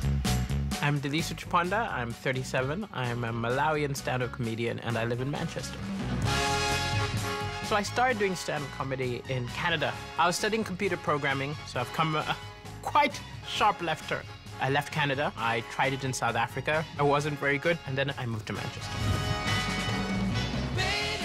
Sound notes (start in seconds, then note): 6.2 short loud trumpet-like noise